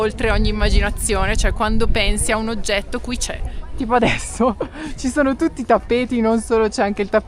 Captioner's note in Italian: risate